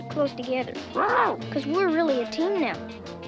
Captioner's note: Arrow barking